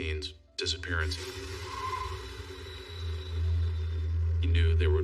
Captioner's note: tirires scrching